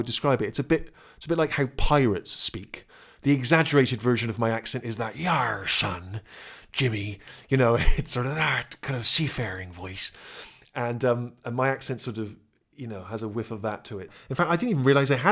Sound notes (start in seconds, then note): 5.4 imitating pirate